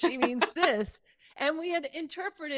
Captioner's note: chuckling